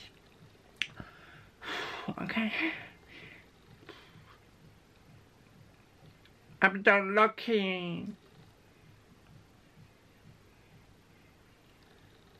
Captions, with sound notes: *breathes* okay... I'm going to login on track